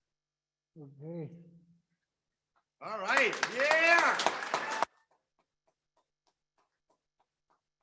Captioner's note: audience applaudes